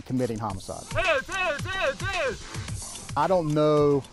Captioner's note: officer yelling